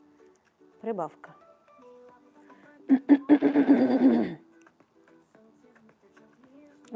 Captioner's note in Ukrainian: сміх